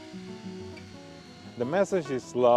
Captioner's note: chainsaw whirring